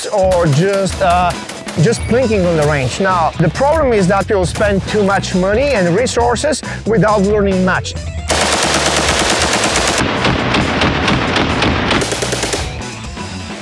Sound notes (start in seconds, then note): 8.3 rifle firing